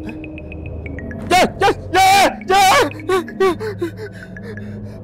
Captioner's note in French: crie